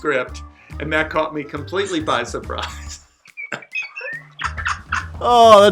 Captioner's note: laughs